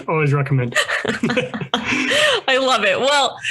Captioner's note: both laugh